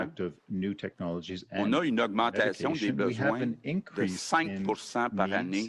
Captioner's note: speaks French